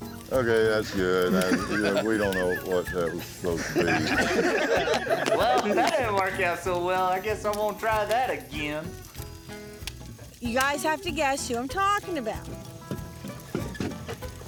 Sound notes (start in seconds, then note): 4.5 laughter